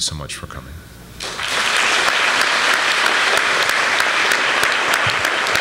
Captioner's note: applause